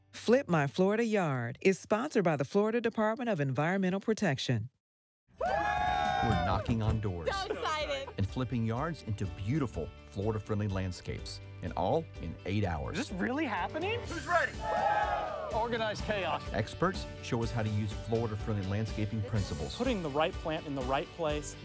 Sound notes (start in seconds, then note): 5.4 people cheering; 14.7 crew cheering